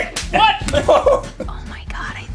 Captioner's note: Rhett laughing